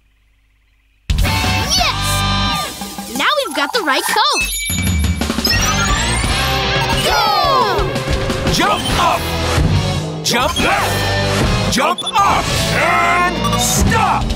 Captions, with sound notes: Yes! Now we've got the right code. [powering up] Go! Jump up, jump left, jump up and stop.